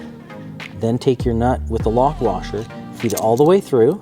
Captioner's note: bolt